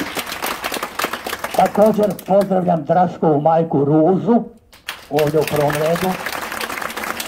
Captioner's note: applause…